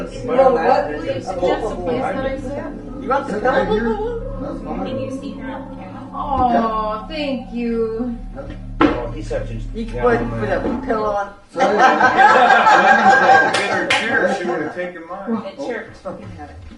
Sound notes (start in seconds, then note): 0.3 group muttering; 9.4 group muttering and laughing